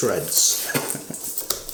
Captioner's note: chuckle; shredding